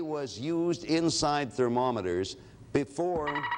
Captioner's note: alarm sounds